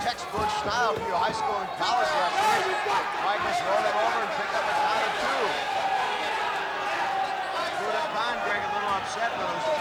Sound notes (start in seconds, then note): 3.1 audience cheering; 6.0 audience chattering